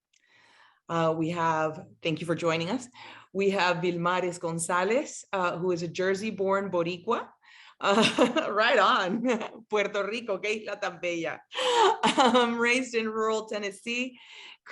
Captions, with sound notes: We have, thank you for joining us. We have Vilmaris Gonzalez, who is a Jersey-born Boricua. (laughs) Right on. (speaking in Spanish) Raised in rural Tennessee.